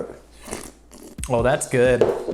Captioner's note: slurping loudly